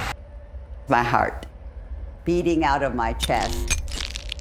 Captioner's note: pat